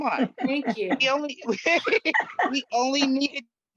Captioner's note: laughs